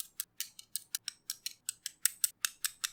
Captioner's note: tap tap tap tap tap